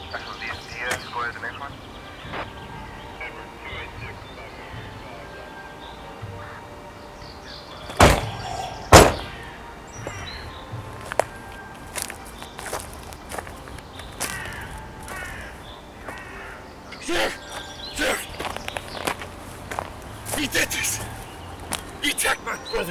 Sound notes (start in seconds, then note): 0.0 police radio chatters; 3.2 slow music; 7.8 car door slams; 10.2 slow music